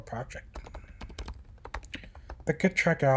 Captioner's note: typing